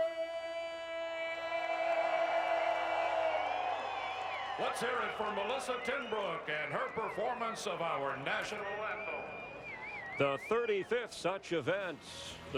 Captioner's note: cheers & applause